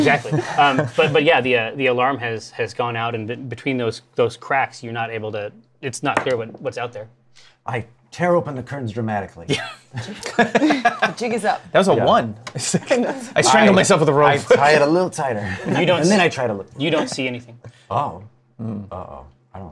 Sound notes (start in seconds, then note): 6.1 die clatters; 9.5 laughter